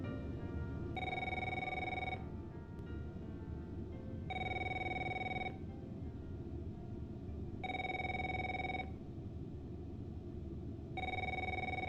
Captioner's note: phone rings